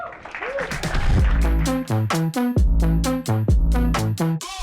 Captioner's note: applause